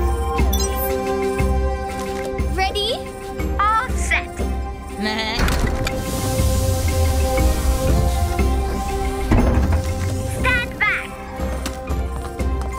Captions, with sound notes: - Ready? - All set. (bleating) - Stand back!